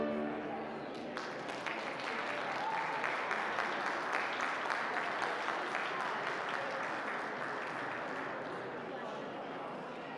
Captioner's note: audience applause